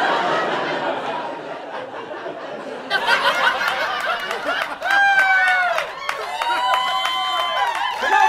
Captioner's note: audience laughter